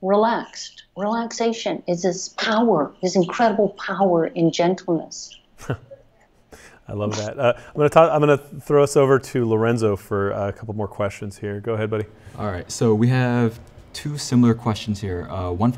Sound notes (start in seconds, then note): 5.5 chuckles